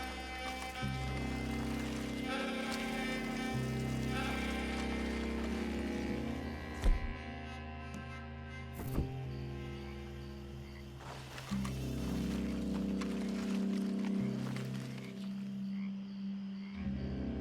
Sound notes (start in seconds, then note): none